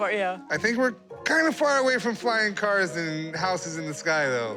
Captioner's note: none